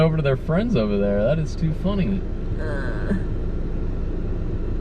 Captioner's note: laughing